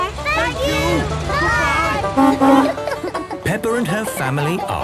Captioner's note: honking